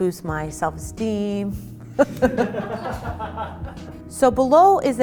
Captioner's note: laughing